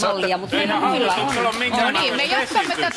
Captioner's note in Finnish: Aplodeja